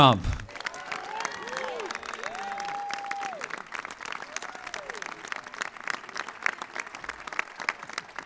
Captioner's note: applause